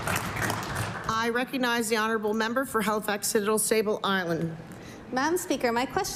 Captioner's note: applause